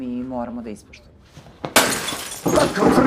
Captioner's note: glass shattering